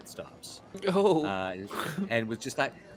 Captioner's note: chuckles